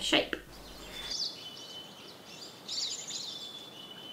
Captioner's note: birds tweeting